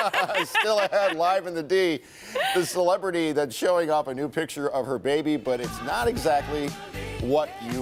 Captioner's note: laughter